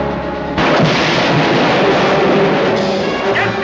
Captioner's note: explosion